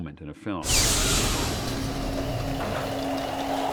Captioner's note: whooshing